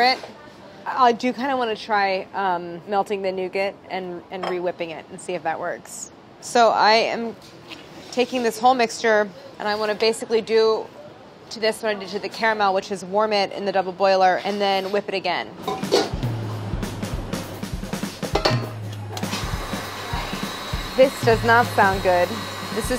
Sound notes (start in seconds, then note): 15.8 chill, drum music; 17.9 whirring; 18.3 clanging